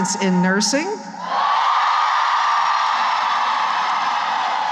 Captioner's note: cheering